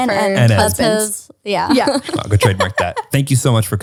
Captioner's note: laughs